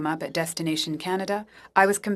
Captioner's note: speaking French